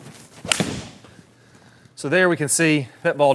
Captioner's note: club striking ball